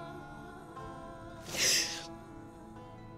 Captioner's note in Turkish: Ağlıyor